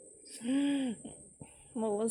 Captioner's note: inhales